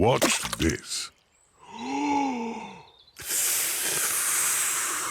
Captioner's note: takes big breath and blows